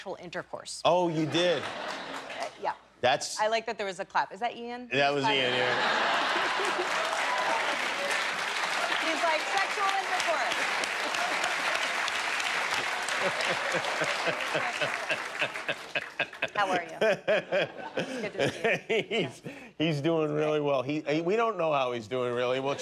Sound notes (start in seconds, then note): 5.2 laughter; 11.0 laughter; 11.4 applause